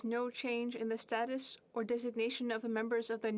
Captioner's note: speaking french